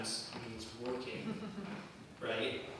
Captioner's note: laughter